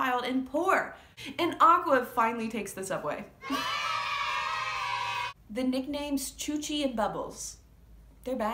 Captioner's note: kids cheering